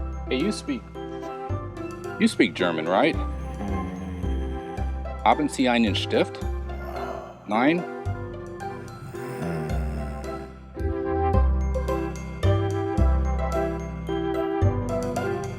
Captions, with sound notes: Hey, you speak ... you speak German, right? (Groan.) Haben sie einen stift? (Sigh.) Nein?